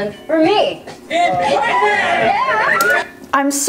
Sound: contestants cheer

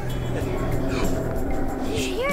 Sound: roar

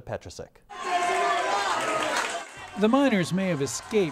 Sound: crowds cheering

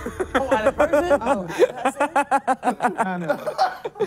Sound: laughing

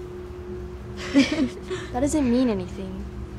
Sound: laughter

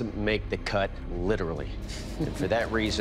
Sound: chuckles

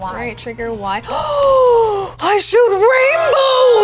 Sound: gasp

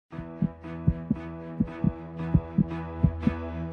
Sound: heartbeats; instrumental music

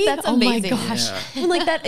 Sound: laughs

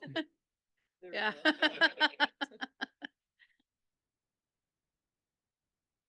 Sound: laughing

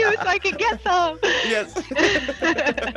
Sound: laugh

